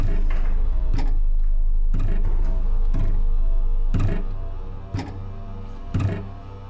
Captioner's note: object thudding rhythmically; intense tense music